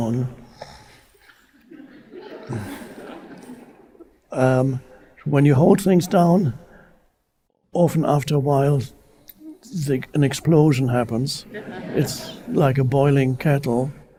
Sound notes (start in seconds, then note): 0.7 Eckhart snorts and sighs; 1.4 audience laughing; 11.2 audience laughing